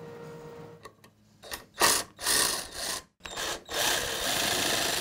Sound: drill whirring

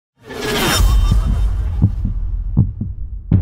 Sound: blades swishing; heart beating

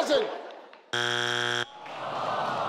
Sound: buzzer ringing

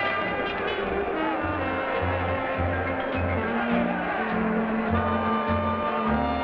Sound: crowd conversing quietly; slow dance music

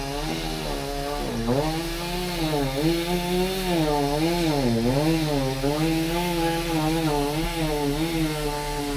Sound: motor whirring

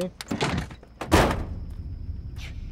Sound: doors close

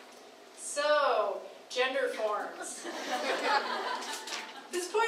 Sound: crowd laughing

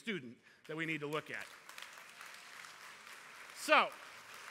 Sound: applause

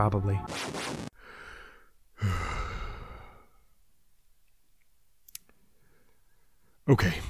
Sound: deep sigh

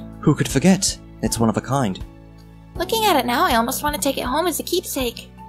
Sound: none

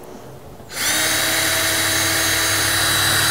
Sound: drill whirring

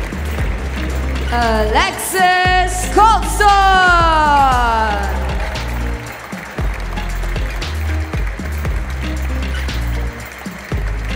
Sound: applause; applause

